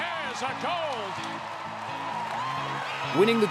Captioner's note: cheering